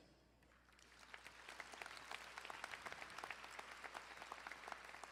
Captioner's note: crowd applauding